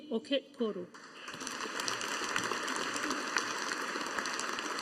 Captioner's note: audience applauding